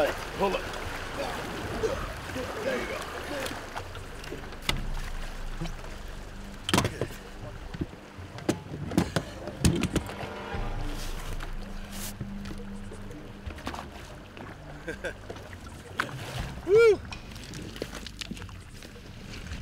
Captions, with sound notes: - OK, PULL IT. - THERE YOU GO. [CLANGING] [CHUCKLES] WHOO!